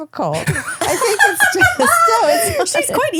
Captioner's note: laughing